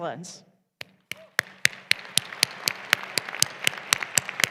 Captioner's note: applause